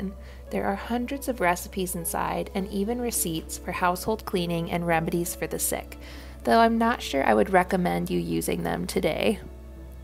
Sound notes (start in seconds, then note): none